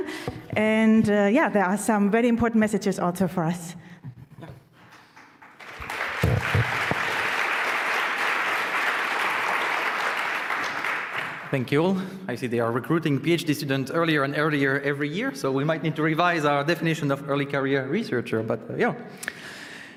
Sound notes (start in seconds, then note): 4.8 applause